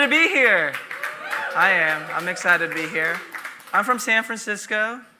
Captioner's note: audience applauding